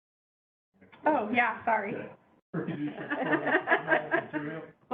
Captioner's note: laughter